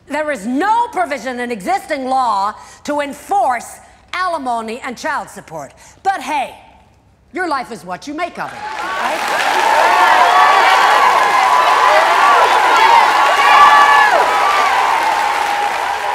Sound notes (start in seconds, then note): 8.5 cheering and applause